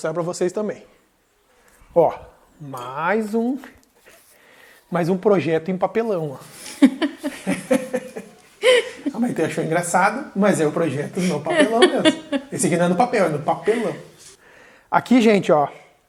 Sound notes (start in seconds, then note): 3.7 laughs